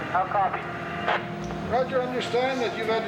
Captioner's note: static buzzing